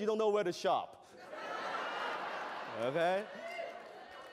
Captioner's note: laughter